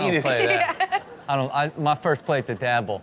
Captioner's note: laughs